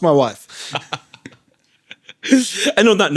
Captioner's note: laughing